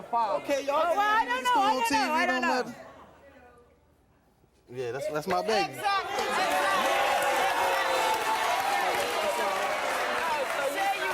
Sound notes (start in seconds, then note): 6.0 audience cheering drowns out conversation